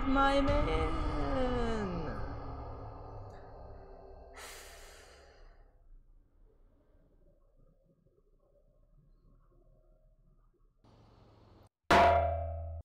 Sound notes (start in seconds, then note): 4.4 exhales; 11.9 head hits metal